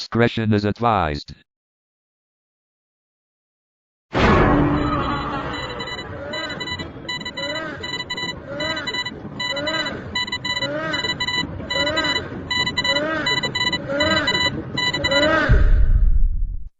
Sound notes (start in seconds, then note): 4.2 Anti Killer Closeup Sound